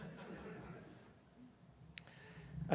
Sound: laughter

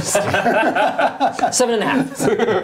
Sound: laughing

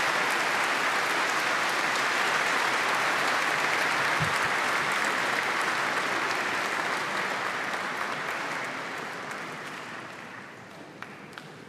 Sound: applause

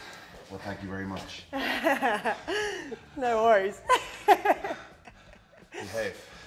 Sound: laugh

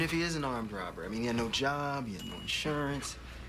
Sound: microwave dings

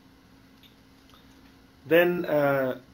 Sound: pause

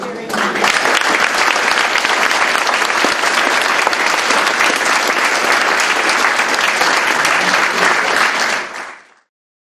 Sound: applause

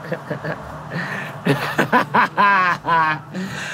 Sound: both giggling

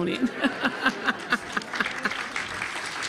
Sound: all laughing; audience clapping

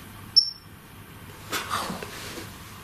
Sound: metre beeps

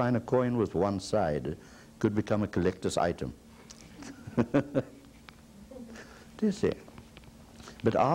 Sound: laughs

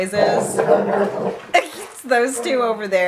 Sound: dog growls

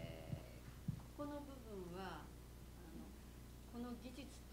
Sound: non-english speech

